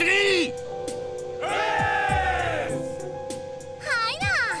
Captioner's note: cheer